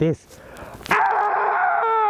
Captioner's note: screaming